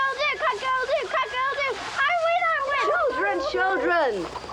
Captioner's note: children yelling indistinctly